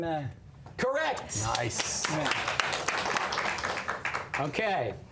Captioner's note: applause